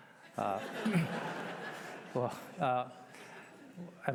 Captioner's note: laughter